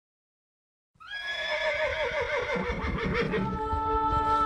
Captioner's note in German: Pferdewiehern